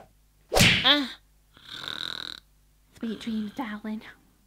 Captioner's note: Haggis begins to snore